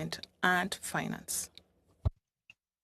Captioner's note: speaking French